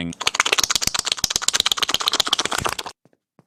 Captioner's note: wanking noises